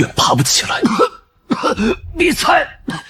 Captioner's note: cough